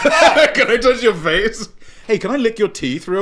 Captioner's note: laughing